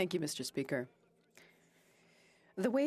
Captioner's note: speaking French